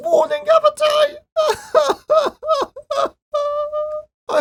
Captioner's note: cries